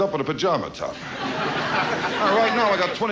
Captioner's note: audience laughs